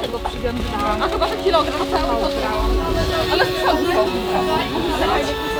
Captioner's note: distant conversations